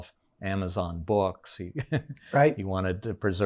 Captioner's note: laughs